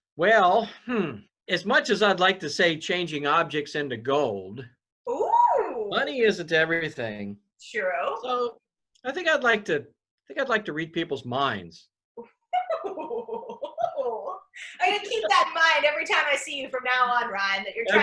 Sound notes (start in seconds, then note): 12.6 laughs